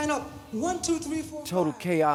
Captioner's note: soundbite of archived recording